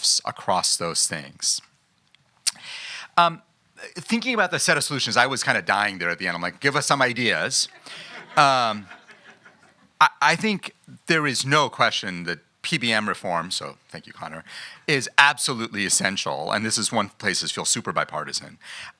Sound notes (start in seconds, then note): 7.7 laughing